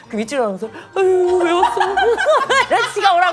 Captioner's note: disgusted